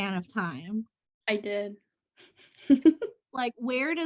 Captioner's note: laughter